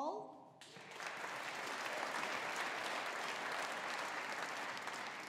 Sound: audience applauding

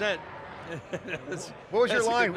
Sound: laughs

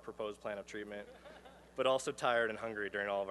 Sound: laughter

